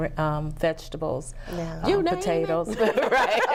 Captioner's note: laughing